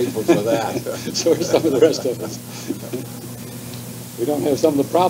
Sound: laughter

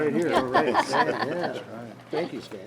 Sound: some board members laughing

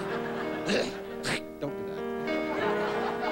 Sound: hawking

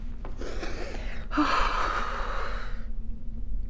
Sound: exhales

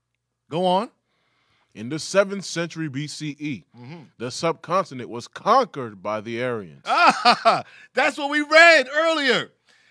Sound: laughter

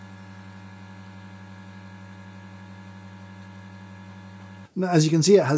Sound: espresso machine buzzes

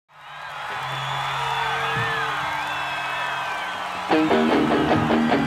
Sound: audience cheering

